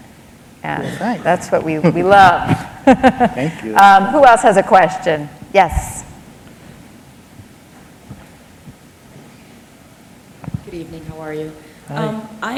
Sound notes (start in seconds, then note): 2.4 laughter